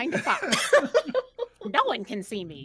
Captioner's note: laughing